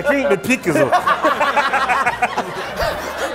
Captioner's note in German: Gelächter